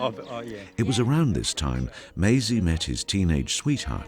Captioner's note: voiceover